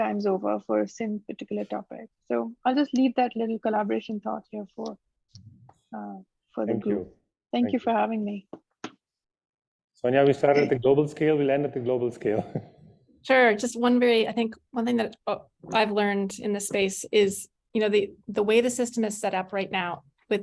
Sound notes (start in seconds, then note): 12.3 giggles